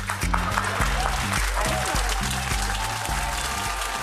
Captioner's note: audience applauding